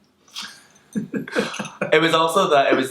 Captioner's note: kisses; laughs